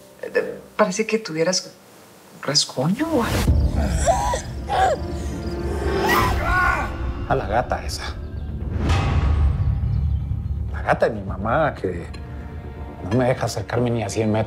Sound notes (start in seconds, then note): 3.7 grunting; 5.7 screaming